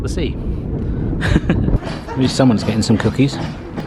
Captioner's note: laughing